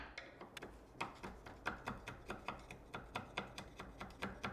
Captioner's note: tool scraping